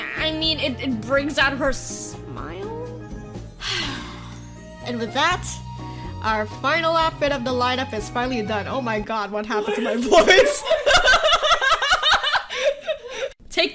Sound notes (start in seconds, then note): 3.5 exhale; 4.9 weird voice; 9.6 me and my sister laugh; 13.5 normal voice